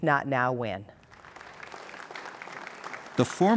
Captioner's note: applause